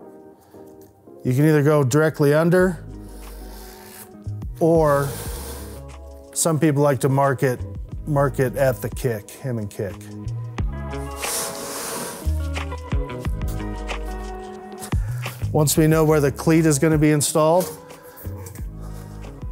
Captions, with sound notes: You can either go directly under or some people like to mark it at the kick, him and kick. (lively music) (panel sliding) Once we know where the cleat is gonna be installed,